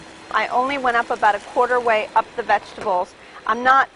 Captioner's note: sizziling